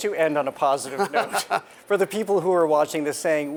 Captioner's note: Adam laughing